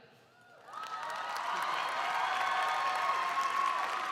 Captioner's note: crowd cheering